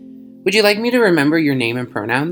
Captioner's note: voiceover